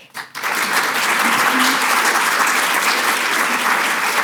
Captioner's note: audience clapping